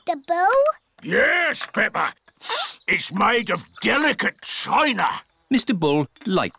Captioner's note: sniffs